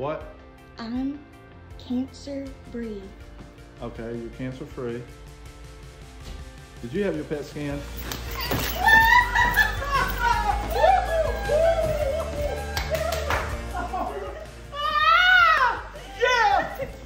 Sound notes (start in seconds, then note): 8.3 all cheering; 11.8 clapping